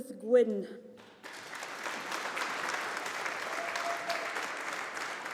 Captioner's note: audience applauding